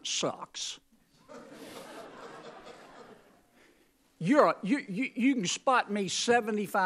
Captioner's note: laughter